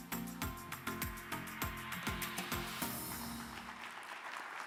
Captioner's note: audience applauding